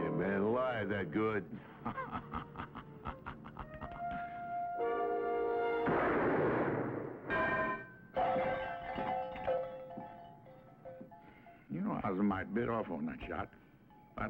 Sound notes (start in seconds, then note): 1.5 laughing; 5.8 gun firing; 7.3 metal clanging; 7.3 bell ringing